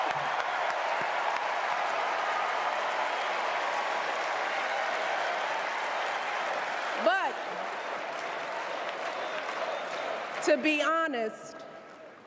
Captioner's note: cheers and applause